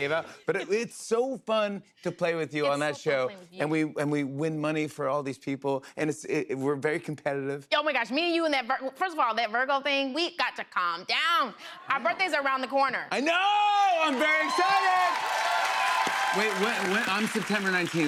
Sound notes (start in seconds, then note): 13.4 cheers and applause